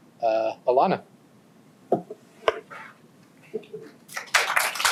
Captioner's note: applause